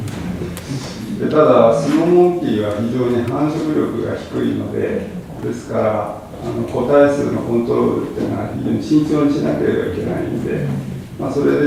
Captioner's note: japanese